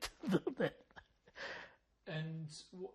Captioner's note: laughing